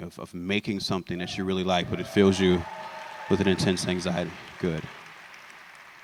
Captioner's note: applause